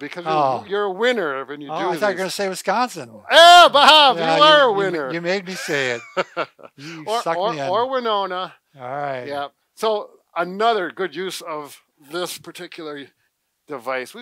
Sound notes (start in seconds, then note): 6.6 laughs